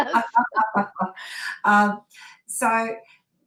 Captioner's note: laughs